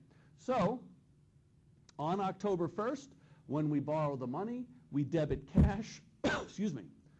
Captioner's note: coughs